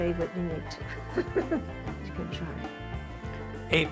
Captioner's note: laughs